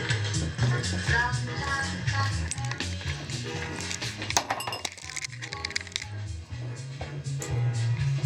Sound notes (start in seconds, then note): 3.9 dishes clanking